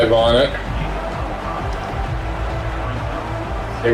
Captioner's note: crowd Noises